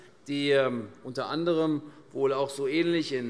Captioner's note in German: none